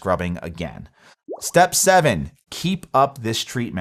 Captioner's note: graphics pop